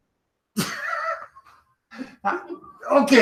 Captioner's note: laughs